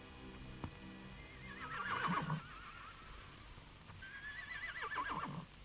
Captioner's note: horses whinnying